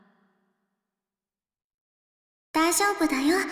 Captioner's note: silence